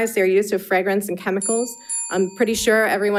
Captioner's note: bell dinging